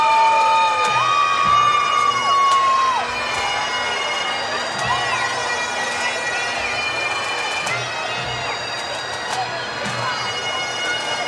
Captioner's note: cheers and Applause